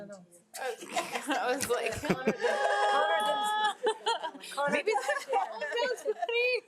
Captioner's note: trustees laugh